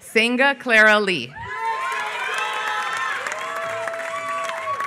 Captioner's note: applause